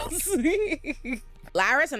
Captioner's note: laughing